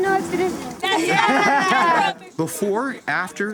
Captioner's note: laughing